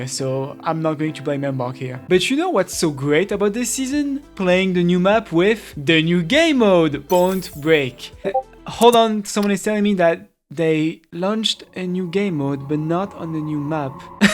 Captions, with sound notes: So I'm not going to blame Embark here. But you know what's so great about this season? Playing the new map with... The new game mode! Point Break. *Discord ping* Hold on, someone is telling me that.. They launched a new game mode, but not on the new map..